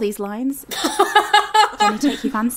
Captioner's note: laughing